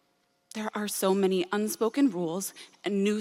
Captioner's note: none